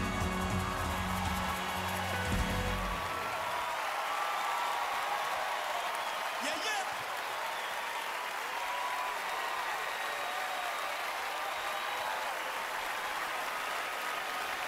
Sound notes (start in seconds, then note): 1.4 cheering, applause